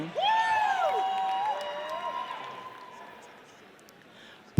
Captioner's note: audience cheers